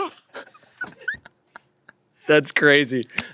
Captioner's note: everyone laughs